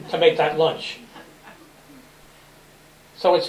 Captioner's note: laughter